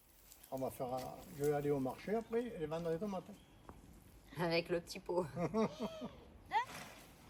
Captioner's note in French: rires